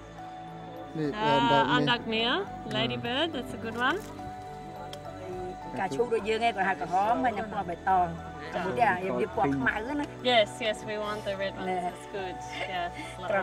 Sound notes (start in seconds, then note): 5.6 woman speaks local language